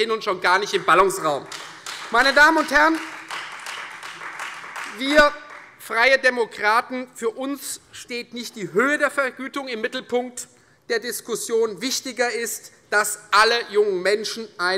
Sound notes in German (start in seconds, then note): 0.6 Beifall Freie Demokraten